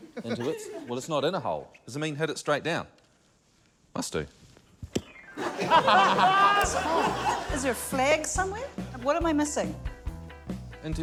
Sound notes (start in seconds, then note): 5.3 laughter